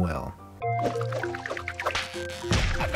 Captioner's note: whiring and smack